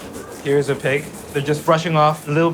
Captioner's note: pig rustling